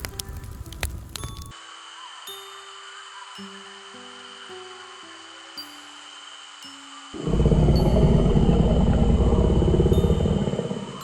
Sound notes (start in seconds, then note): 7.1 dinosaur growling